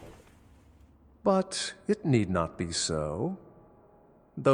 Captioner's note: reassuring